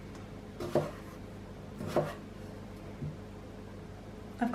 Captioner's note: chopping